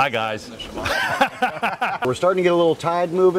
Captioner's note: both laugh